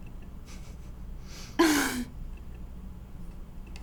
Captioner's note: chuckles; laughs